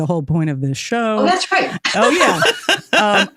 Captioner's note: laughing